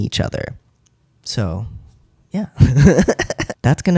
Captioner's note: laugh